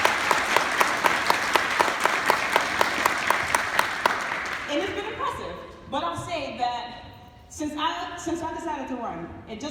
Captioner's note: applause